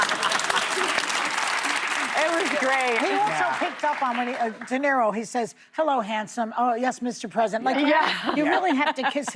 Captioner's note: laughter